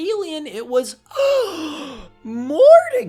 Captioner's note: gAsP